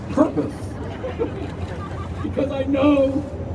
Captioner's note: crowd laughing